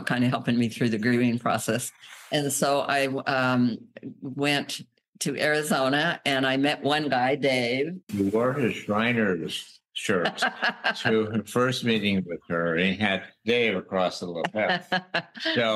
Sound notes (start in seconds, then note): 10.2 laughter